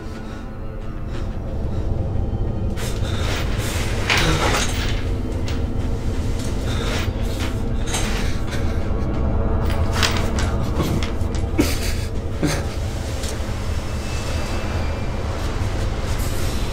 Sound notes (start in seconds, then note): 11.9 dramatic music; 12.3 crying